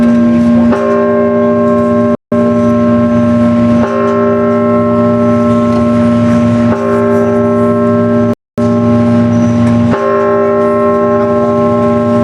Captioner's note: bell tolling